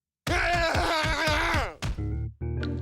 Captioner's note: screaming